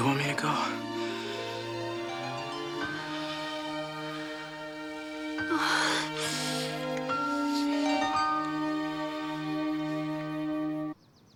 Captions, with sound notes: - You want me to go? (Rebecca moans)